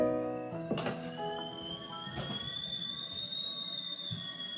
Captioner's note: kettle hissing